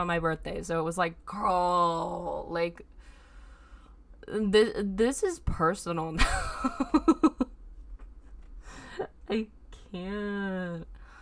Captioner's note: evil laughs